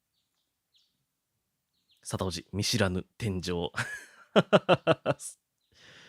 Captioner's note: laughs